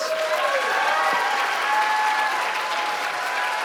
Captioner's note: audience cheering